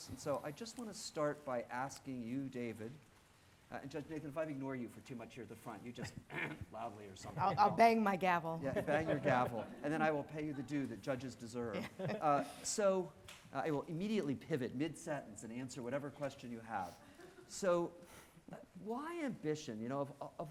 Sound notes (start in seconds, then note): 6.1 clearing throat; 8.7 audience laughing